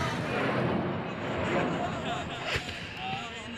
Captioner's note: shouting in Arabic; rockets firing